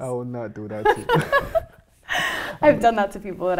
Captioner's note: both laughing